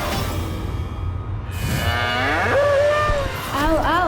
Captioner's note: bull grunts